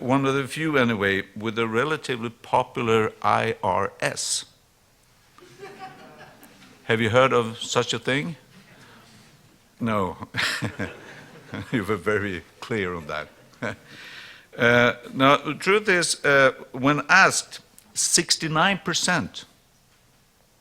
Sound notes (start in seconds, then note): 5.4 laughter